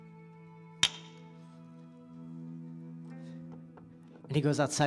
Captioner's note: bb gun fires